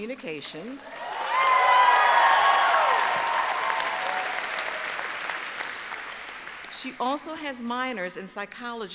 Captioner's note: cheers and applause